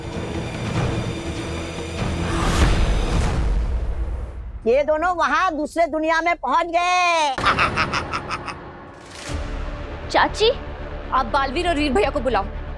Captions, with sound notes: They both have reached to another world. [giggles] Aunty, you please call Veer and Baalveer.